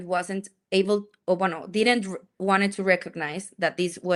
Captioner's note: speaks in Spanish